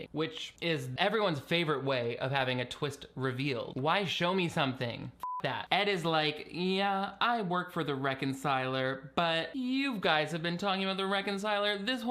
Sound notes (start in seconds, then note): 5.2 beep